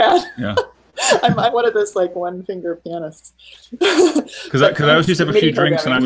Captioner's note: laughing; laughing